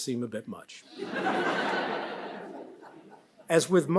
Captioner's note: audience laughs